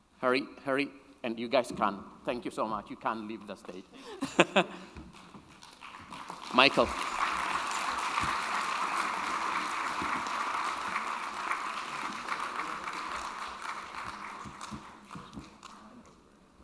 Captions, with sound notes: Hurry, hurry. And you guys can. Thank you so much. You can leave the stage. (chuckles) Michael. (audience applauding)